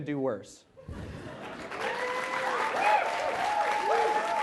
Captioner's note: cheers, applause